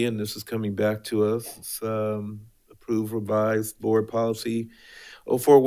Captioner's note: none